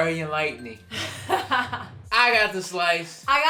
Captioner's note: laughs